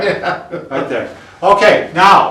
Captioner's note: laugh